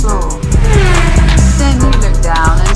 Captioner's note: racing car sound